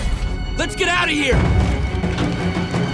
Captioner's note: none